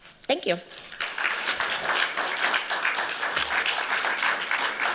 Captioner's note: applause